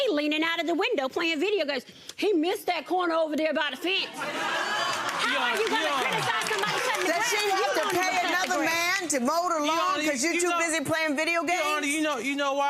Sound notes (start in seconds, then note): 4.1 audience laughing